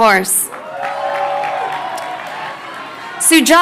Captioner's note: crowd cheering